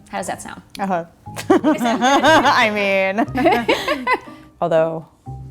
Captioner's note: laugh